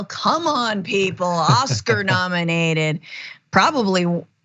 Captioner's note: laugh